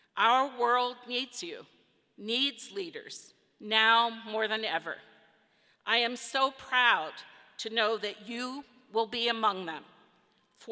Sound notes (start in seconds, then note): none